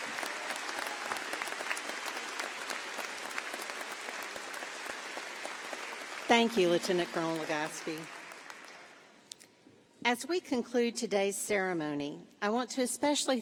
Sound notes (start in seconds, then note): 2.1 applause